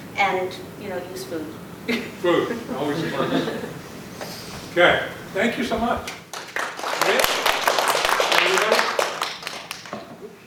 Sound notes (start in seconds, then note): 3.6 laughter; 6.1 applause